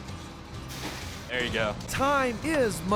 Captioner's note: splash